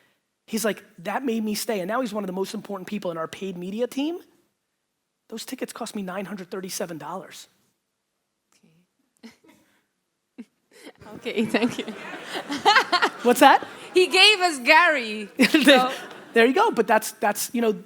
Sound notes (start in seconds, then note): 10.8 laughs; 11.0 audience laughter